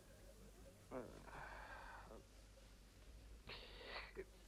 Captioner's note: Rothrar grumbles